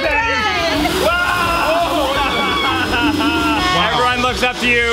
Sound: all cheering, screaming

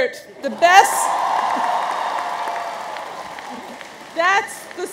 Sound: audience cheers

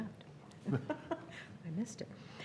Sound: laughing

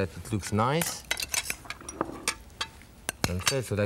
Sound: spoon clinging

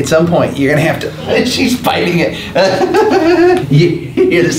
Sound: laughs

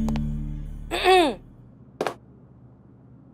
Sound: clears throat

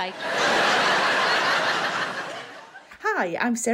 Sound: audience laughing

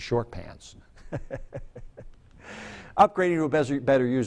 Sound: chuckles

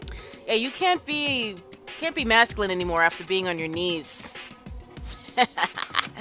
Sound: laughs

